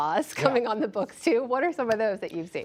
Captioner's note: laughter